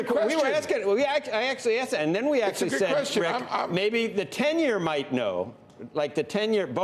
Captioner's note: laughter